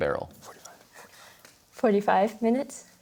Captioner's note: whispers